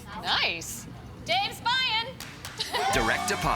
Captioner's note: people cheer